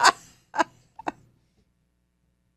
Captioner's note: laughs